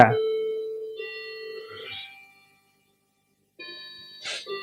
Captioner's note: wall clock chiming